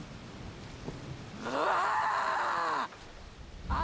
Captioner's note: scream